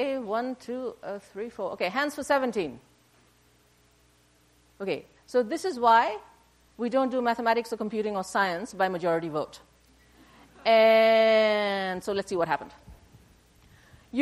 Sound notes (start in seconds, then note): 10.2 laughter